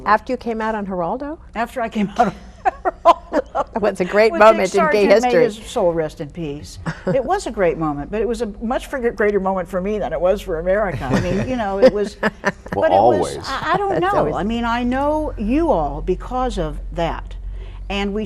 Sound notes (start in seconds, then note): 2.6 laughs; 10.9 all chuckling